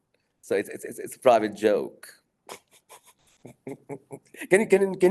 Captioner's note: laughing